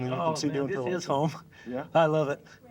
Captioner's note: laughs